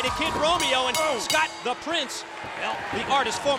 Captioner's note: bell ringing